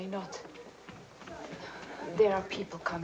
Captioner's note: footsteps